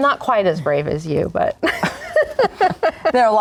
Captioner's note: laughing